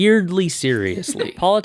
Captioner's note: Peacock laughs